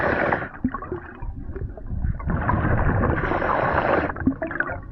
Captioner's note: water sloshing